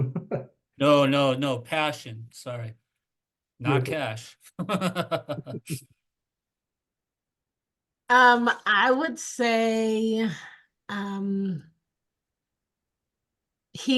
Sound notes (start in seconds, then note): 4.5 laughter